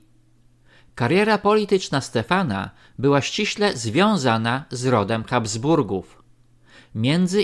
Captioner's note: German